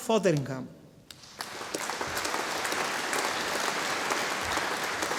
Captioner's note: audience applauding